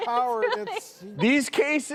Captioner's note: laughing